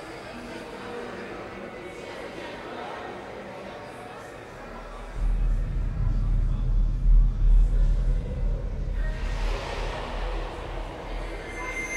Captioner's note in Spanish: charlas en medio ambiente